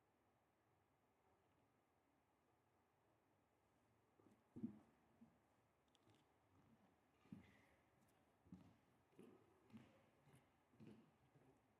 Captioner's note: silence